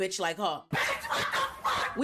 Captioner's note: laughing